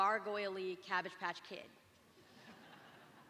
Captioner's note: laughter